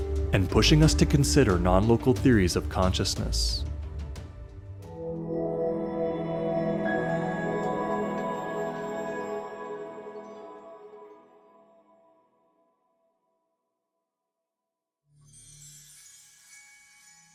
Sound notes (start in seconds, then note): 6.4 swelling tone, high-pitch bell strike, fade out; 15.2 light chimes, soft droning